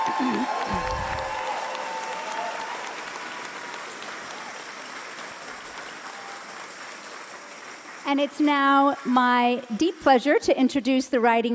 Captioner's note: cheers and applause